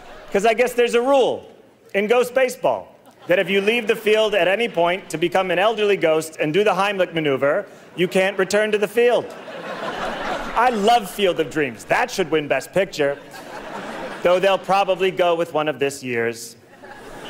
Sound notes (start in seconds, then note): 9.0 audience laughter